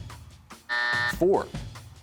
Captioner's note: buzzer sounds